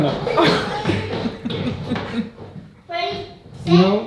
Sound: laughing

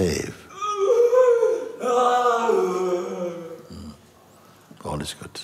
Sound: sangha friend wailing

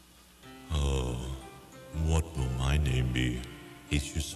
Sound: playful music; Jamaican accent

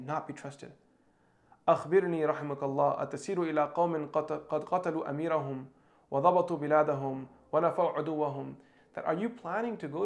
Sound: speaking in Arabic

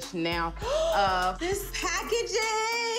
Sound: gasp

